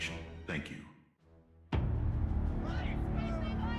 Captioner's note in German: Reporter schreien